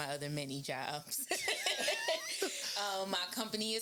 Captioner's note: laughing